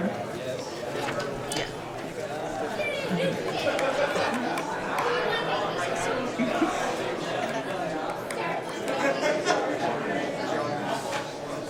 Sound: crowd Noise

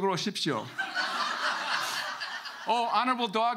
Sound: audience laughing

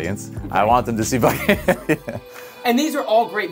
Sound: laughing

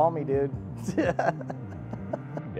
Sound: laughing

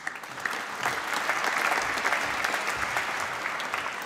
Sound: applause

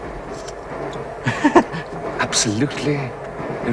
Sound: Bunny chuckles

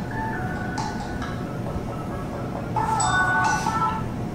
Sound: phone chiming

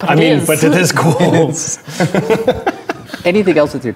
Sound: laughing

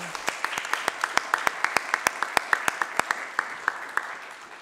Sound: audience applause

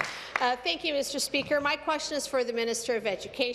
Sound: applause

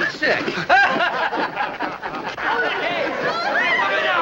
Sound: men chuckling

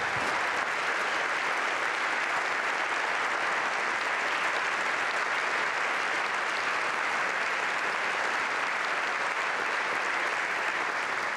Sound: applause

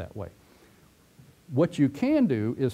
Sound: pause

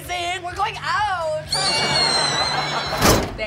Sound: screaming

